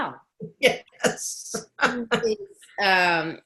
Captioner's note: laughing